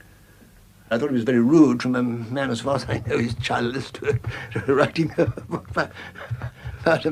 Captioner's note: laughs